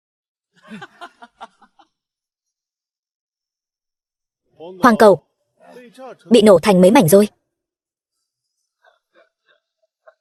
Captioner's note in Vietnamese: Tiếng cười